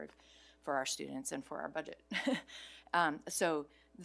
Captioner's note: chuckles